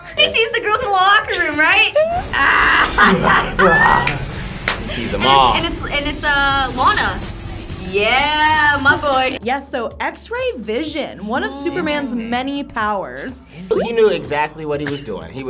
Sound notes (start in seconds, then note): 1.7 laughs; 2.2 grunts